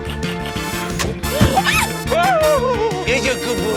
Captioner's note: shrieks